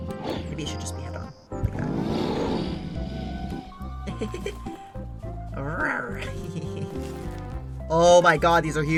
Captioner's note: giggles